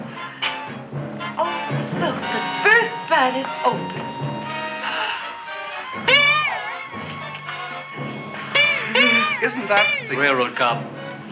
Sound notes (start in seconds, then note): 4.7 girl gasps